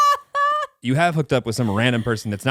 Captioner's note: laughing